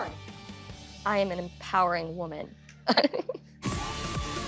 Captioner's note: chuckles; upbeat dance music playing